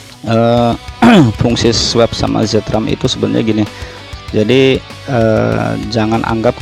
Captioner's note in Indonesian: berdehem